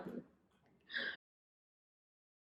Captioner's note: gasp